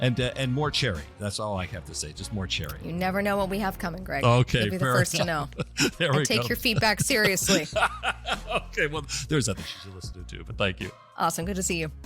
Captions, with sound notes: And more cherry, that's all I have to say. Just more cherry. You never know what we have coming, Greg. Okay. You'll be the first to know. There we go. I take your feedback seriously. [laugh] Okay, well there's others you should listen to too, but thank you. Awesome. Good to see you.